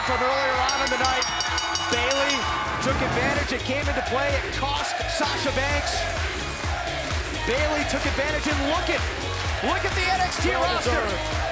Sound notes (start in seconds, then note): 2.7 bell ringing